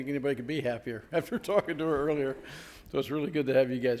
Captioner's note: chuckling